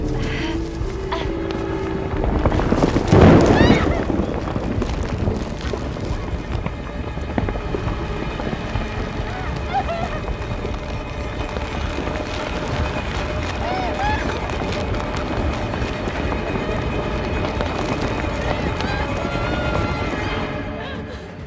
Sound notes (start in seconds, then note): 0.1 musique tendue; 8.9 doux sanglots